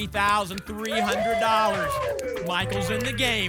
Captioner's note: applause and cheering